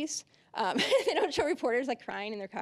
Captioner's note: laughing